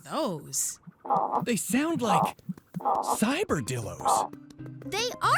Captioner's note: animal snorting